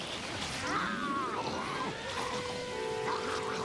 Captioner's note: snarling